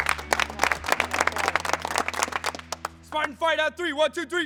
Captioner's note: applause